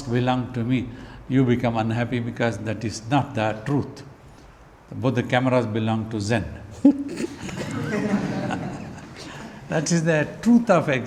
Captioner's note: laughs